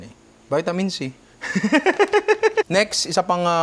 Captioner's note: laughs